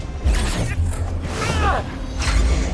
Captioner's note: Max screams